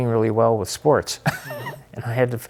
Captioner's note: chuckling